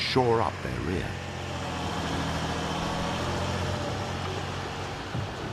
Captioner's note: tank engine revving